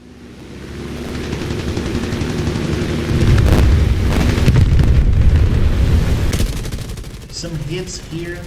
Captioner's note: engines, machine guns, flying sounds